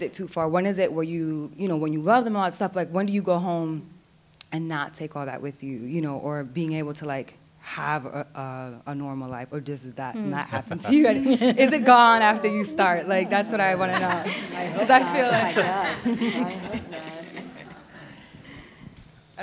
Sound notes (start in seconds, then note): 10.7 chatter; 13.9 chatter